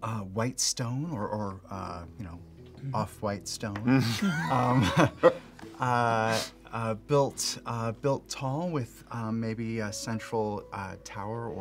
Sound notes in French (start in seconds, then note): 3.9 rire